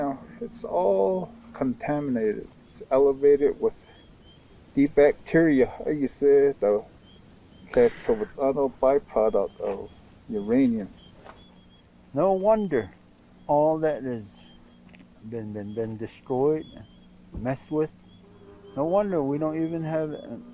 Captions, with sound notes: It's all contaminated. It's elevated with the bacteria, how you say it? The [speaks in Navajo] A byproduct of Uranium. No wonder all that has been destroyed, messed with, no wonder we don't even have,